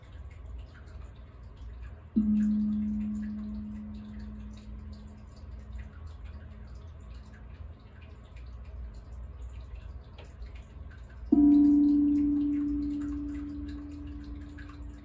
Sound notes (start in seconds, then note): 0.3 low, mellow tone plays; 4.8 low, warm tone plays